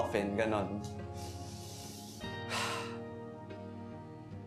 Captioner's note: deep sigh